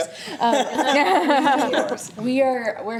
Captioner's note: laughter